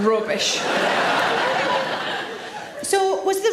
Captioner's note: audience laughs